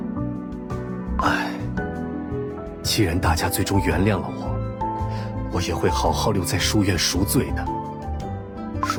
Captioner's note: sigh